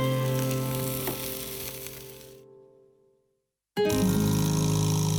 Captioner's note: meat sizzles; Latin guitar music